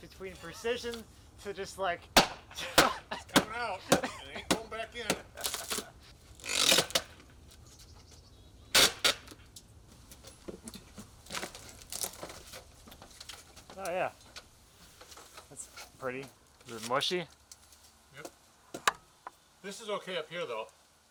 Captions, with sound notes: between precision to just, like. (laughs) - I don't know, it ain't going back in. (wood creaking) Oh yeah, that's pretty. Is it mushy? - Yep, this is okay up here though.